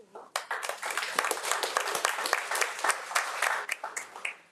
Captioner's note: audience applauding